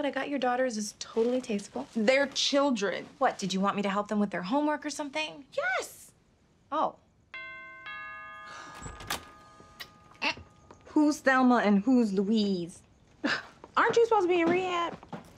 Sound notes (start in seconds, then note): 7.3 doorbell rings; 8.2 sighs; 12.7 scoffs